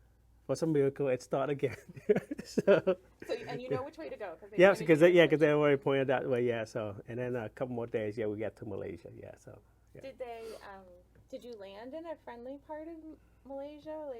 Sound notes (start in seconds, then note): 1.9 laughs